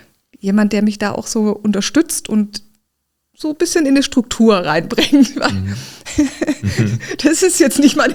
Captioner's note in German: gelächter